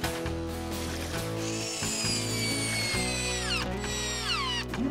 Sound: high-pitched Whirring

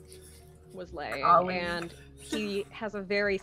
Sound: chuckles

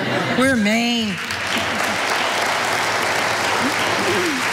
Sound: audience applauding

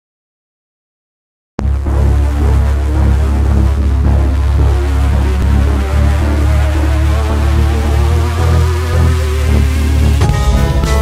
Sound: scary sound

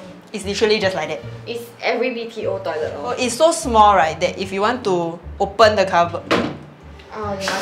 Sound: bangs

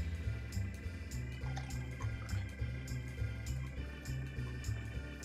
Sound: liquid trickling

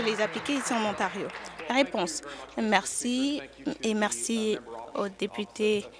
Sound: applause

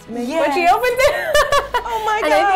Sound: laughs

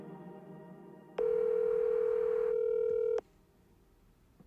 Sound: phone ringing

